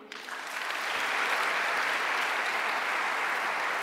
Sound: audience clapping

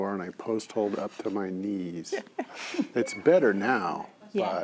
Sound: others laugh

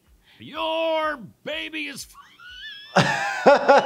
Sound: wheezes; laughs

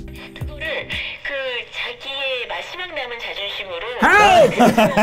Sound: foreign voice over radio

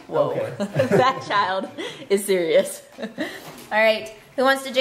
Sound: chuckles

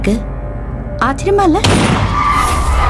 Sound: gunshot

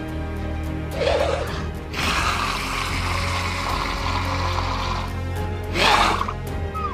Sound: Dilophosaurus panting; intense music

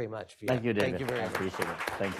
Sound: applause

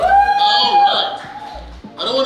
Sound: crowd cheers

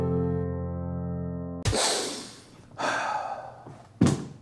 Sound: mark takes a deep breath

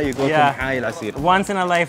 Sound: speaks foreign language

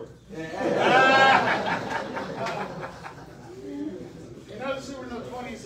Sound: audience laughs

